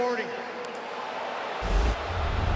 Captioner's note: booing